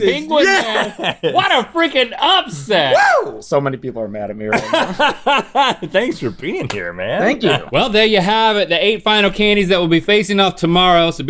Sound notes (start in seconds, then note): 4.5 Rhett laughs